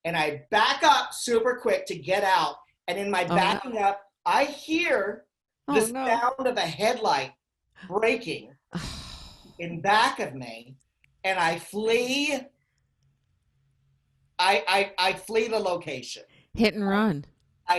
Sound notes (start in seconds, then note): 8.8 sighing